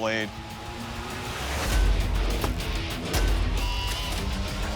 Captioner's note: chopping